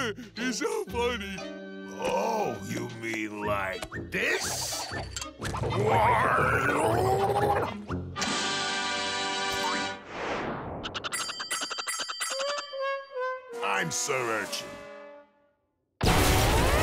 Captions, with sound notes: He's so funny. Oh, you mean like this? Why, you! [clanging] I'm Sir Urchin.